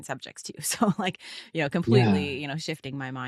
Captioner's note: chuckling